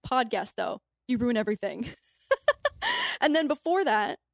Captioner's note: laughs